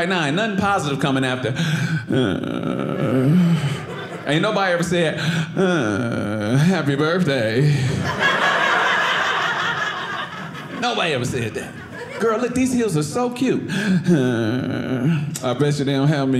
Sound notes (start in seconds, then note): 1.6 annoyed sound; 6.8 audience laughing